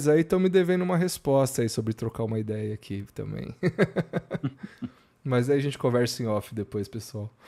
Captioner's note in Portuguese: risadas